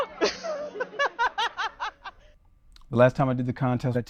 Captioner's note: laughs